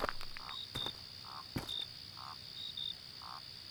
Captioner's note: frog croak